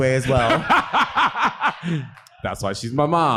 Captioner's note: laughing